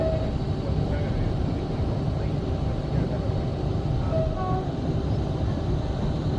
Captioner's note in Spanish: se escucha el claxón del tren para espantar el ganado